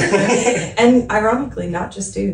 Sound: laughing

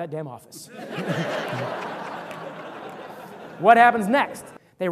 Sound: audience laughter

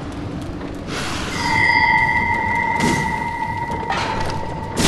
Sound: ding

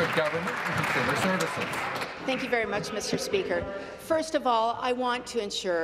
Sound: applause

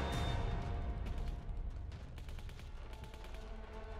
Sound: gunfire

